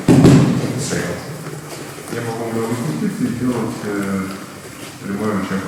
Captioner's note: speaking in a foreign language